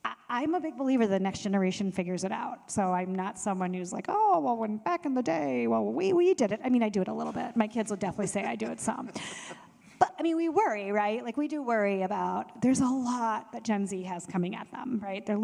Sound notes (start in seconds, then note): 8.1 panelists laughing